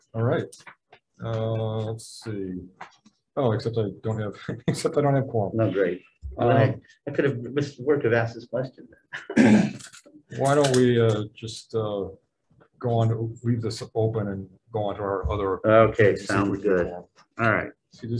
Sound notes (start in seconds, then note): 9.5 laughs